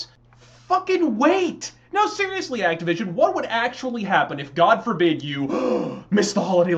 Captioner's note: gasp